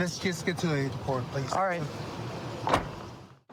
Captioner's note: car door closes